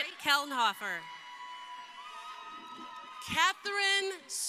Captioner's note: crowd cheering